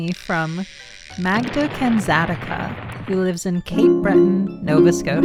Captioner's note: fishing pole reeling; explosion